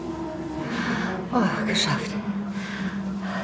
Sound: breathes heavily

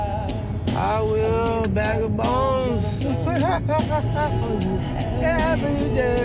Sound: laughs

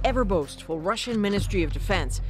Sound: speaking alternate language

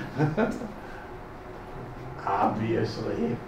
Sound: laughs

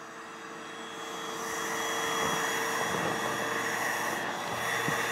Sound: air mattress blowing up

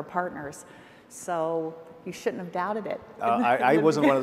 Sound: laughs

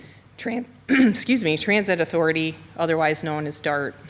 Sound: clears throat

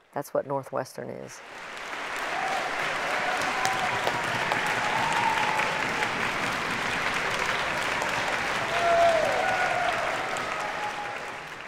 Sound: audience applause

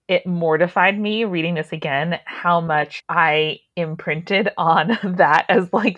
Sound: laughing

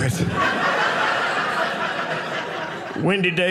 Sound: audience laughing

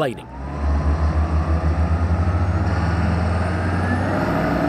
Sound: engine revving

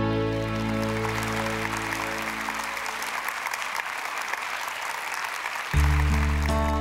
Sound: applause

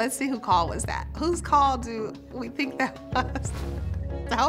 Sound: chuckling

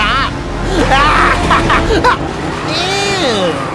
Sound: cackling laughter

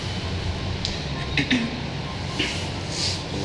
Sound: more subtle coughing

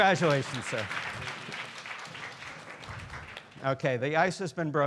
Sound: students applauding

